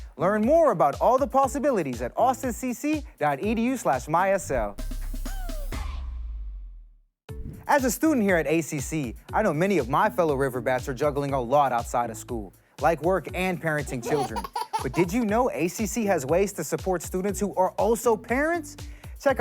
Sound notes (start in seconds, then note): 4.3 energetic music; 7.3 air whooshing; 13.8 child laughing